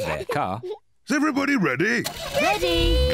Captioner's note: engine starts